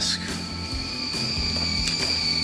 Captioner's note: kettle whistling